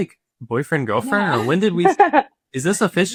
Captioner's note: chuckling